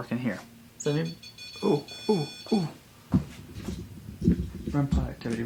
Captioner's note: REM Pod beeping